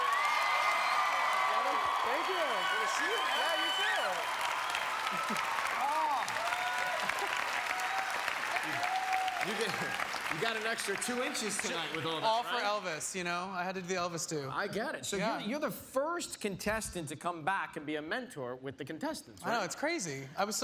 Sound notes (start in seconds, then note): 3.1 cheers and applause